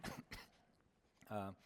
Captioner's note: cough